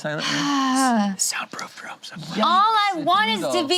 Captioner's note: sighs